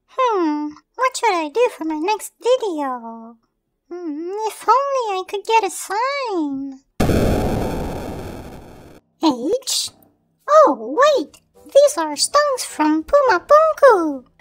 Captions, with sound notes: Hmm... What should I do for my next video? If only I could get a sign... *Thud* H? Oh, wait, these are stones from Puma Punku!